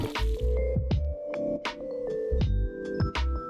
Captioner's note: sizzling